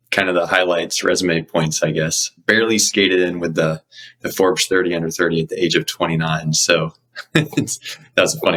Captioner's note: laughs